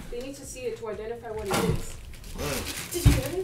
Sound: grunting

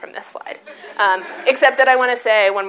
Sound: audience laughs

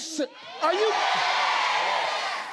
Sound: crowd

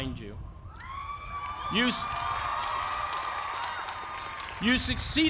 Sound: cheering

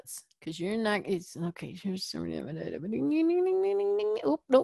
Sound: muttering

